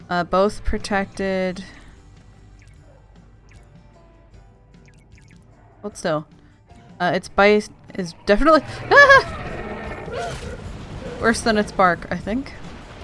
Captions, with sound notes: uh both protected... hold still! uh it bite is definitely *panicked noises* Worse than its bark I think.